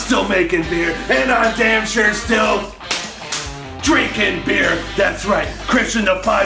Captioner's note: slap